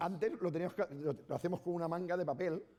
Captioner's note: speaking spanish